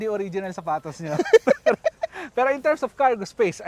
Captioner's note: laughs